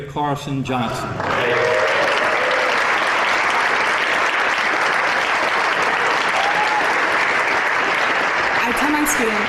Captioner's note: applause